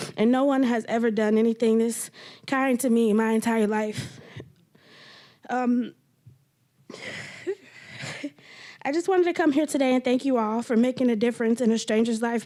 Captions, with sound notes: And no one has ever done anything this kind to me my entire life. (crying) I just wanted to come here today and thank you all for making a difference in a stranger's life,